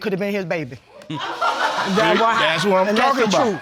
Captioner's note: laughter in audience